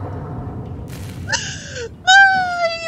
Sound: electrical crackling; big panic inhale

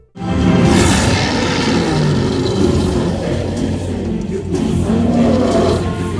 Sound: roars

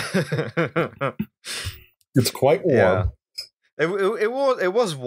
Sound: laughter

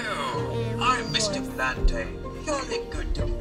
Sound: computer voice

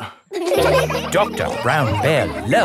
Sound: all laughing

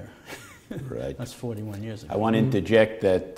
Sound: chuckle

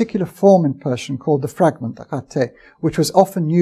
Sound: persian speech

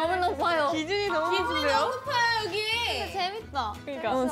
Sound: murmuring

